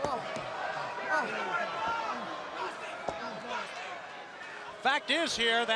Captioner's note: crowd chatter